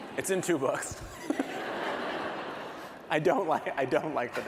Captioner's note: laughter